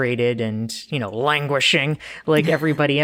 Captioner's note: laughs